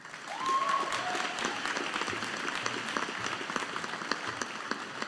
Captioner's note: audience applauding